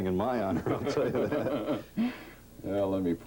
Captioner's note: laughter